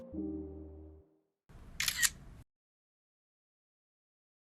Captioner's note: camera Shutter